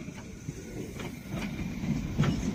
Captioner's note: ambient train noise